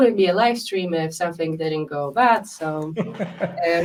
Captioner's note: chuckling